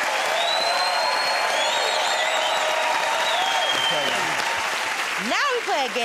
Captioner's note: cheers and applause